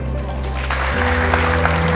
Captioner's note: applause